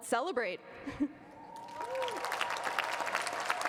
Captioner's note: cheering and applause